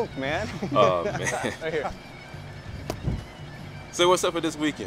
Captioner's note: laughing